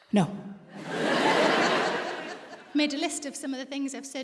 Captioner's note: audience laughs